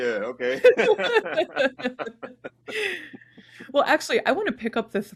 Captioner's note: all laughing